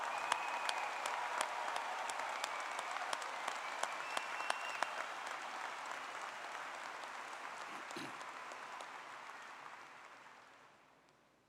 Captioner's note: applause